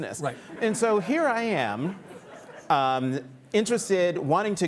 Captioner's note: audience laughing